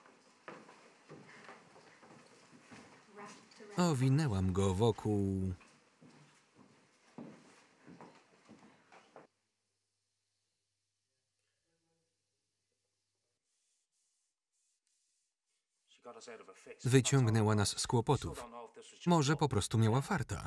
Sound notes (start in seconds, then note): 6.4 people chattering